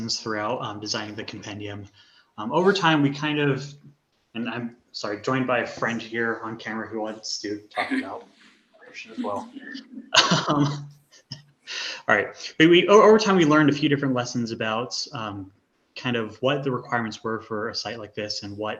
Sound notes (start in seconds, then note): 8.8 laughs